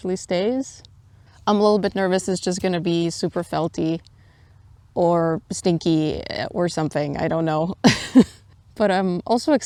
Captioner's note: laughs